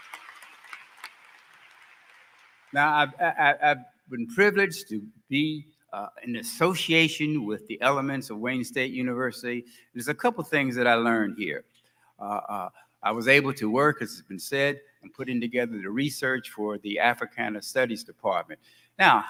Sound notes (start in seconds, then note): 1.7 applause